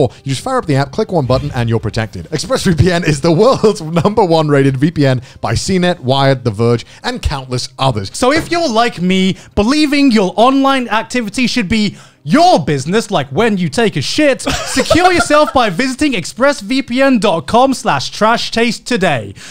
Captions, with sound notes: You just fire up the app, click one button and you're protected. Express VPN is the world's number-one-rated VPN by CNET, Wired, The Verge and countless others. - So if you're like me, believing your online activities should be your business like when you take a shit, (laughing) secure yourself by visiting expressvpn.com/trashtaste today,